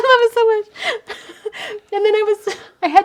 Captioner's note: laughs